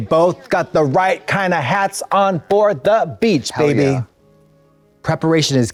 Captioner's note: none